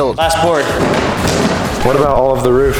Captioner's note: wood rattling